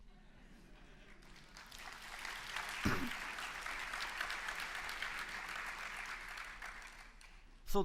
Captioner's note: laughter; applause